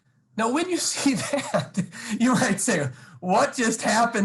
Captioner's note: laughs